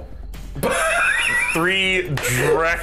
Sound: wheeze; wheeze

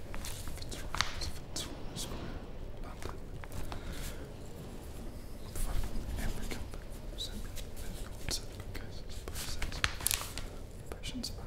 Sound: whispers

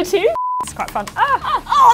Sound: beep

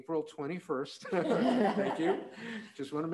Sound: all laughing

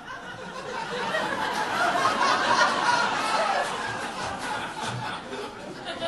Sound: audience laughing

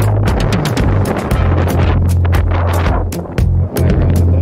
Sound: wind blowing

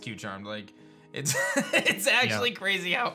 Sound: chuckles

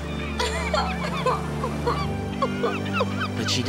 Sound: sobbing

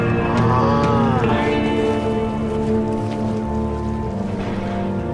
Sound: groaning; rustling winds

